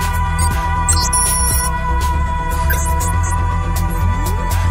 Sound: electronic beeping

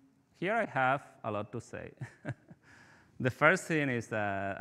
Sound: chuckling

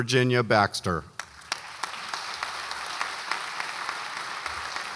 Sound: audience applauds

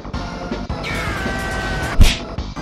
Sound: yelling

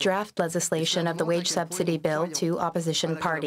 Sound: speaking French

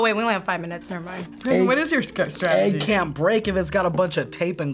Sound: none

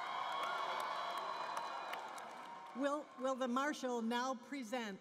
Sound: cheering and Applause

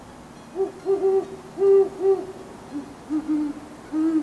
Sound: deeper Great Horned Owl vocalization plays; higher pitched Great Horned Owl vocalization plays; deeper Great Horned Owl vocalization plays again

